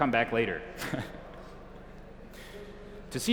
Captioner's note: chuckles